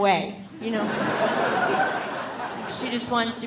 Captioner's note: audience laughing